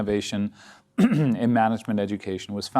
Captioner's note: clears throat